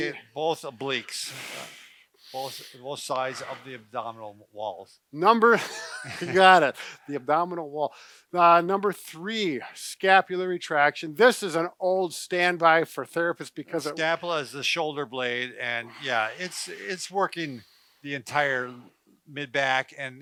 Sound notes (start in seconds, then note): 5.6 chuckles